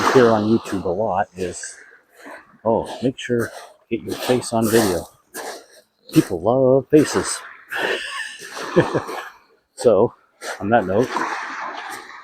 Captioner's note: chuckles